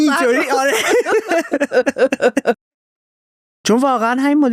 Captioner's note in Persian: خنده